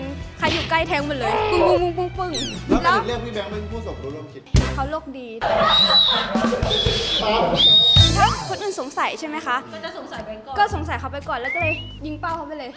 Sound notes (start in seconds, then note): 2.4 immitating stabbing sound; 5.3 whistle blowing